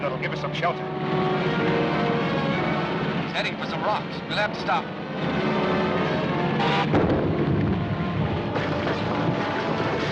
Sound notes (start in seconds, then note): 6.8 booming